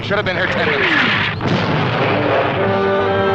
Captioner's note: explosions; instrumental music